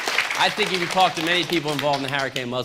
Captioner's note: applause